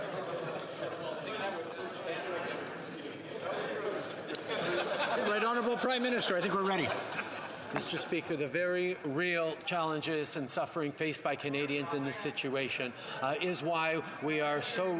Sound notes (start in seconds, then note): 2.4 laughter